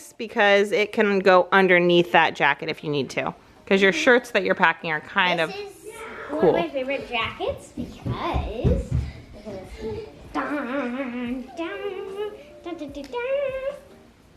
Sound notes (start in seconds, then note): 10.9 humming